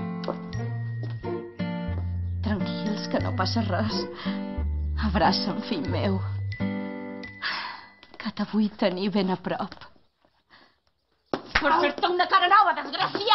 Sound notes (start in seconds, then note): 7.4 sighs; 11.2 slap